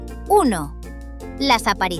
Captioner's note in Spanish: Voz en off